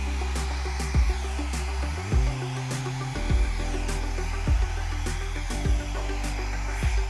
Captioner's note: machine whooshing